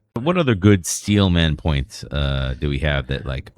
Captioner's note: uh